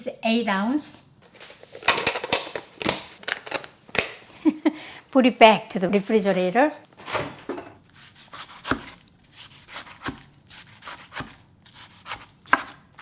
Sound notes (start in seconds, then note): 4.3 laughs